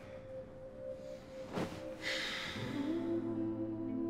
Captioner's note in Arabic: تنهد